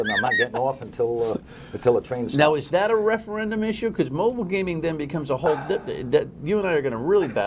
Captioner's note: laughter